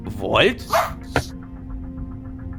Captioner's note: robodog barking